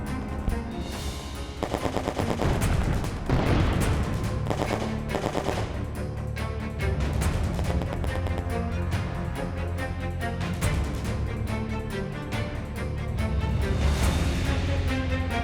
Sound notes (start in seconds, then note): 0.2 tense music; 2.4 bomb exploding; 4.6 gunshots firing; 8.7 tense music